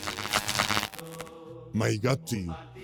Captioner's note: electric shocks sounds